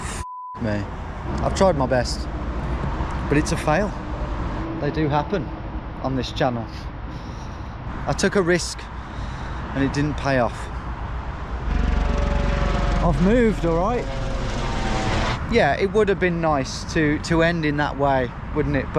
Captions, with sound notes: F*** me. I've tried my best, but it's a fail. They do happen on this channel. I took a risk and it didn't pay off. (helicopter engine roaring) I've moved, all right? Yeah, it would've been nice to end in that way, wouldn't it?